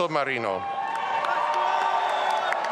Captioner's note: audience applauding and cheering